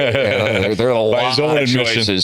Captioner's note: laughter